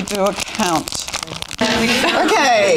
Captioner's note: audience chatter